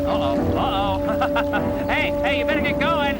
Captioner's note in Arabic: يضحك